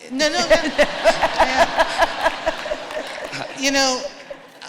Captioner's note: laughter